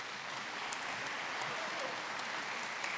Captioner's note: applause